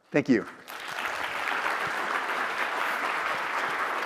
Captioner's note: audience claps